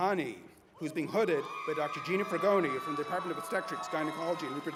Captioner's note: cheers and applause